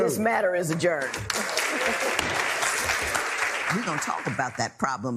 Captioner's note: applause